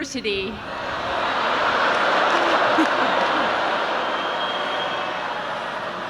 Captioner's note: audience shouting in disagreement